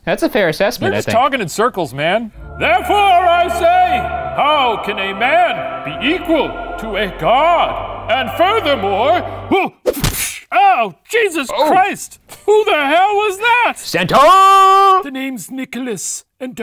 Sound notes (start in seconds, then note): 2.1 choral music; 10.0 punching sound